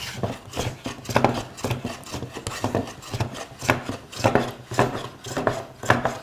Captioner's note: blade on wood continues rhythmic scraping